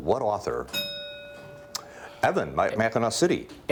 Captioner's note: bell rings